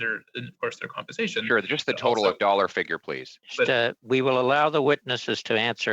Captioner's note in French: voix de l'interprète